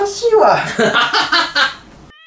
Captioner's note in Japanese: 笑い声